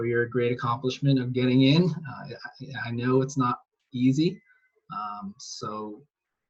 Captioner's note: chuckles